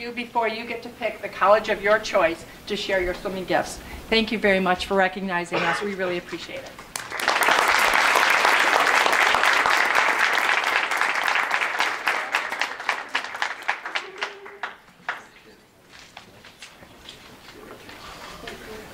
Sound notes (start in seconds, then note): 6.9 audience claps